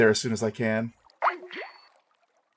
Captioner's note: disconnect sound